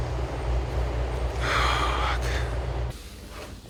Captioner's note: sighs